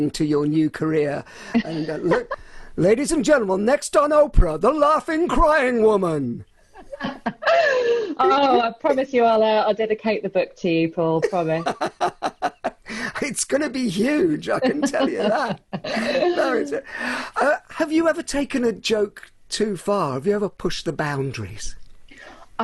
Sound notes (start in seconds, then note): 6.8 laughs loudly; 11.2 laughs loudly